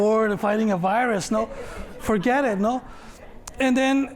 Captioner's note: laughter